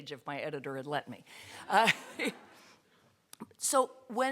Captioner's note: laughter